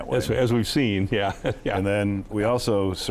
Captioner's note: laughs